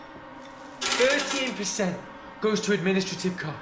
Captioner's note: candy clacking